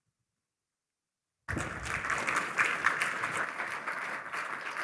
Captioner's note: applause